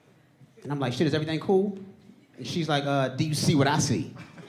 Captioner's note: audience laughing